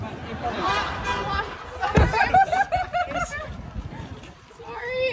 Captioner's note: laughter